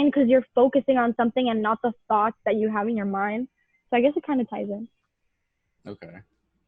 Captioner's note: laughs